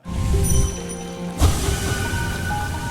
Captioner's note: chime dings; gentle music